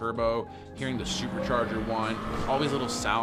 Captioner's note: car engine whines